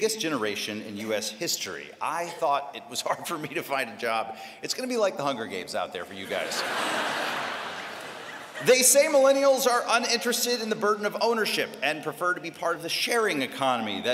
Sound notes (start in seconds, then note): 6.2 laughter